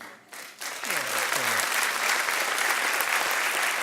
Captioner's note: audience clapping